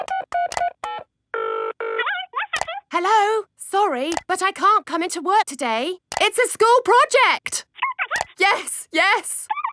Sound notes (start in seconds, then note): 0.0 dials phone; 1.9 on phone